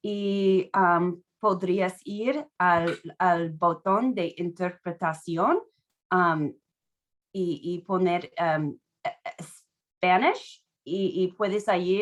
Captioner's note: speaking Spanish